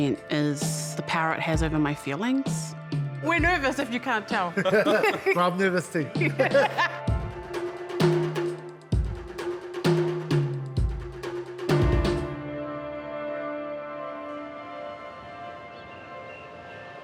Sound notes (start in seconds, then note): 4.5 all laugh; 7.6 intriguing music